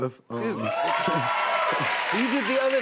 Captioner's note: cheers and applause